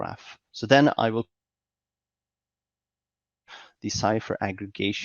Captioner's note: audio cuts out